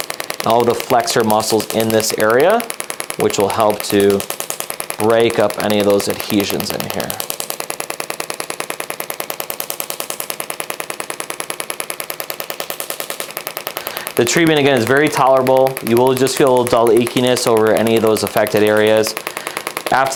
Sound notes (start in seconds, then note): 7.7 machine tapping